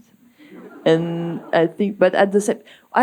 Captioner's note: audience laughing